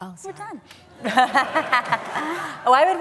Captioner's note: laughter